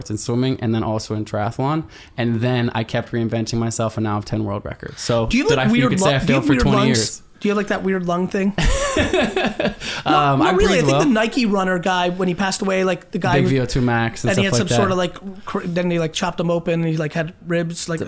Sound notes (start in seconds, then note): 8.6 laughs